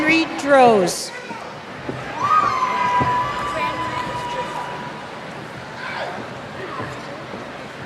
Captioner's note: cheers